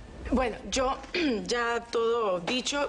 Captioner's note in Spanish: Carraspea